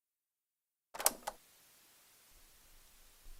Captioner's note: cassette noise